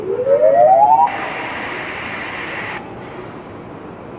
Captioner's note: rising tone; static